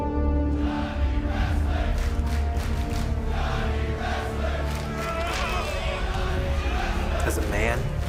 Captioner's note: crowd cheering